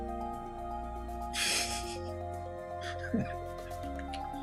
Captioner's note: laughs